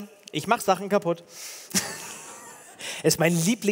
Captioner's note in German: Gelächter